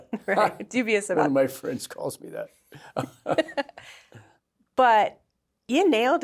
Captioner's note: laughter